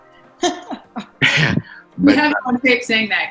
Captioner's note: laughs